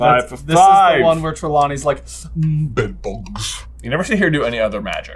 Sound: deep and slow

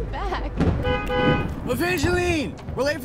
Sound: honking

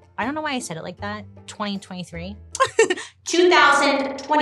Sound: laughs

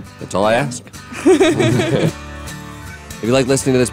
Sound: laughter

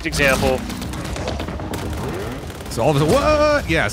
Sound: gameplay sounds

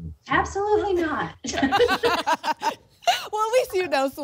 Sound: laughter

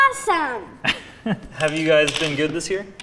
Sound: laughing

